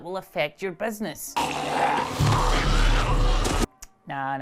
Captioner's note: zombie groans